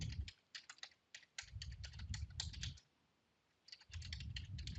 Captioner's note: keyboard clacking